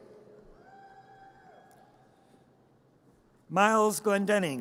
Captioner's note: audience cheers